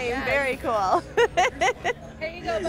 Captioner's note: laughs